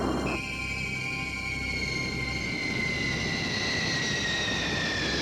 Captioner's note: airplane squealing